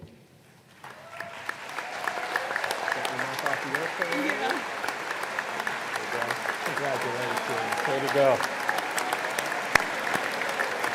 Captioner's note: applause